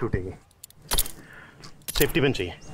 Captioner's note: Hitting rock